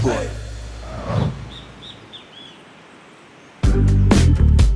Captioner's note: air whooshing; bird chirping; upbeat music